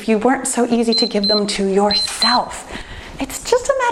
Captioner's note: timer beeps